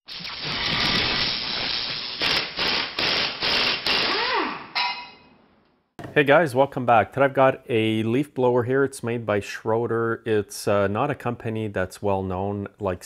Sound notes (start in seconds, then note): 0.1 torch sizzling; 3.3 driver tool roaring; 4.8 metal clanks